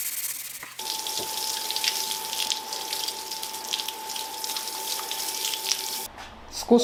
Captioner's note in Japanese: シャワー音